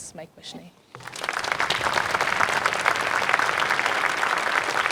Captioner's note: crowd applauds